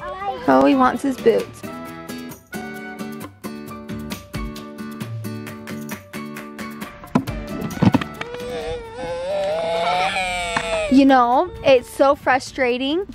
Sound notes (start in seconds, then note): 8.1 crying